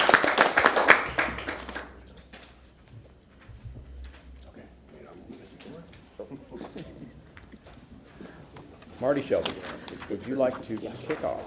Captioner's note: applause